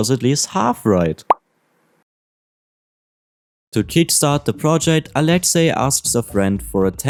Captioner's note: pop Sound